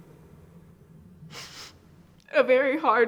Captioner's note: sighs